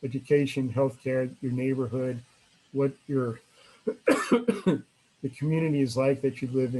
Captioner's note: coughs